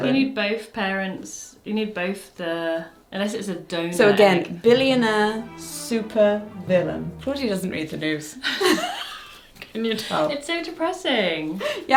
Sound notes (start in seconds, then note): 8.5 both laugh